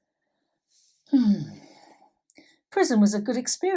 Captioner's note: sigh